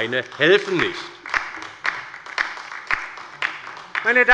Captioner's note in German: Beifall bei der LINKEN